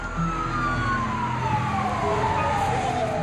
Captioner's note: sirens wail